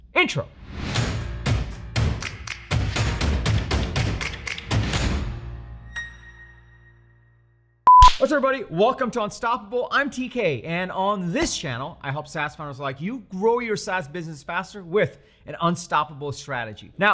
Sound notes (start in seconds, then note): 1.1 energetic music; 8.0 clapping